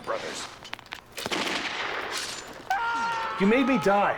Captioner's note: sword Slash and Screaming